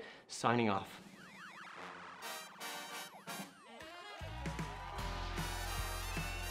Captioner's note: people whistling; upbeat happy music